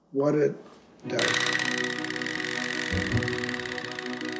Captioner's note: teeth chattering